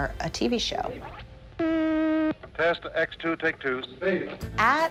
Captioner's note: machine hums